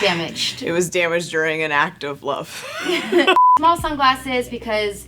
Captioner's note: laughing